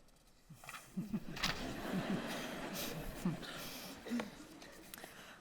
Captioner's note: audience laughing